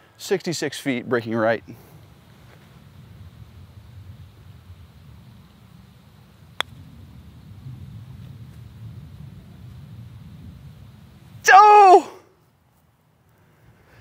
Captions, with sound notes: 66 feet breaking right. [screams]